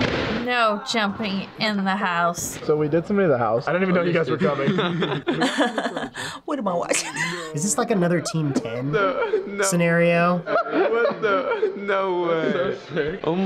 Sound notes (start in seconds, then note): 3.9 both guys chuckle; 4.4 laughs uncomfortably